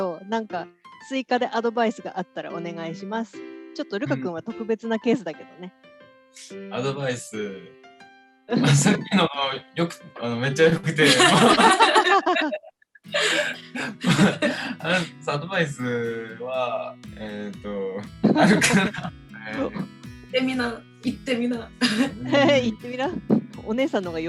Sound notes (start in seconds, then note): 11.0 laughs